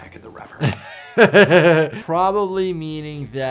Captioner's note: doctor laughing; mouse clicking